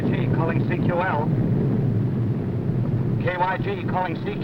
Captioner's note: plane whirring